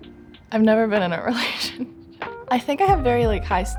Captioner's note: laughs